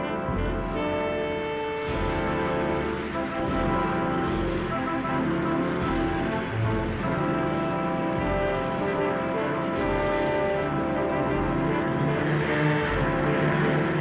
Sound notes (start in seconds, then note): none